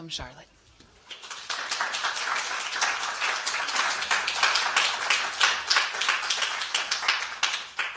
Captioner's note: applause